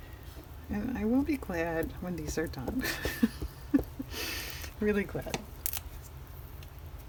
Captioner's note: laughs